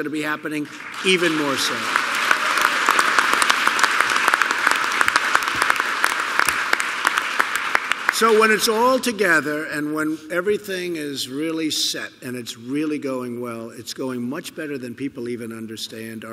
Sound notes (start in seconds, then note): 2.3 applause